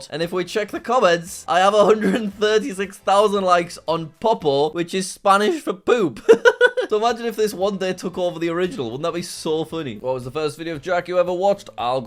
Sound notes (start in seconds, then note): 6.2 laughs